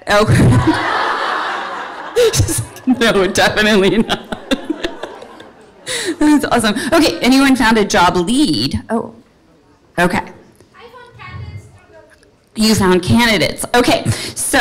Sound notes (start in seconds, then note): 0.5 all laugh